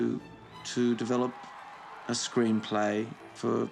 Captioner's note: applause